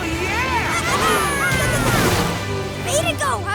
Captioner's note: squeaking